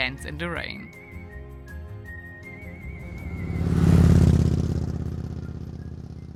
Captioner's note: lively music; bike roaring